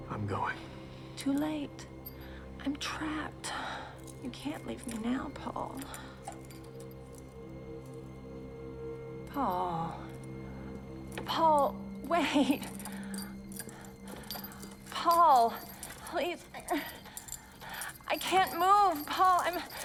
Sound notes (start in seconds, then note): 7.2 suspenseful music; 17.0 moans